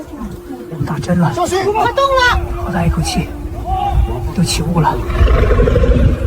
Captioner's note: Mandarin dialogue continues